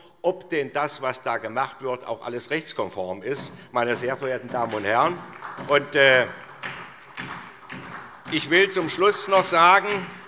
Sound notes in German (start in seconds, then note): 5.6 Beifall SPD